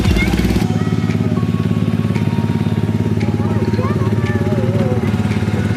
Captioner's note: ride engine rumbling